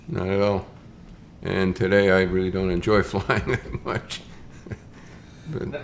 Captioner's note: chuckles